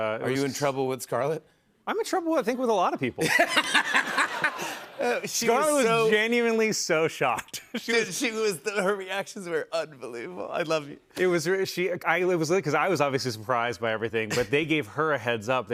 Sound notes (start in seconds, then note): 3.2 laughter